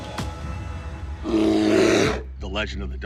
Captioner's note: growl